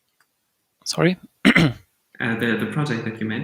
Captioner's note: clears throat